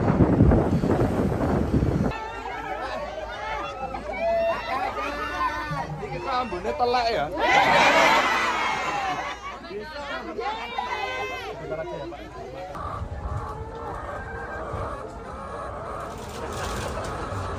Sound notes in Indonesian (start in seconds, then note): 7.4 tertawa